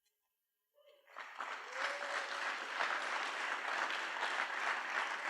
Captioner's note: applause